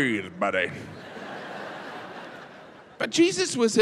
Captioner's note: audience laughs